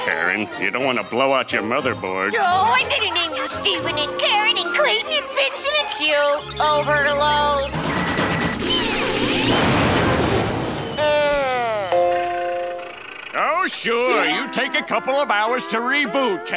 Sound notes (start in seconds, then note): 3.4 beeping; 10.5 dying computer voice